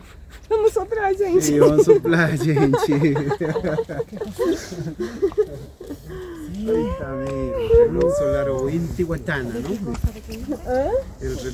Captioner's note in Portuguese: vento